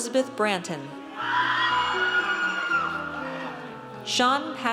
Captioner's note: audience cheers